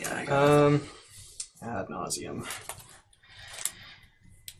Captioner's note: sigh